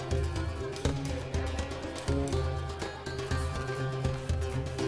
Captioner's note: chatter